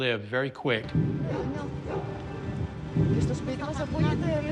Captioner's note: people speaking Greek; rhythmic deep thumping